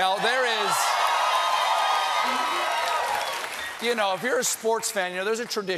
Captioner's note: applause